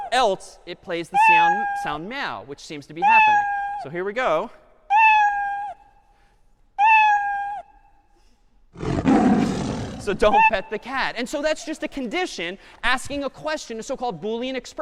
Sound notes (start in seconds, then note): 4.9 cat meowing; 8.8 cat roaring